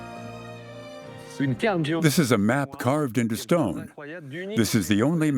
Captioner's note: French dubbed into English